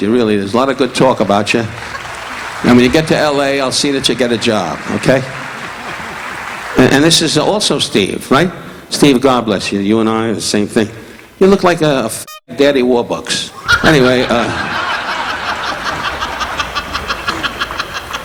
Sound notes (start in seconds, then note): 5.5 audience applauding; 13.6 audience laughing